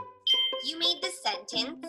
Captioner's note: bell dings